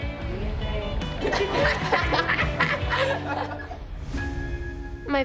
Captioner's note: all laughing